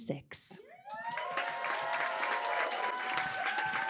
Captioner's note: applause